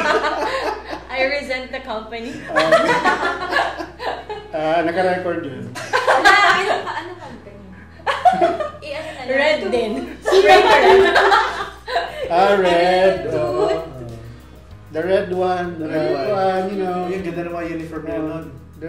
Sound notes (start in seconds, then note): 0.0 laughs; 2.3 laughs; 5.8 giggles; 5.8 laughs; 10.2 laughs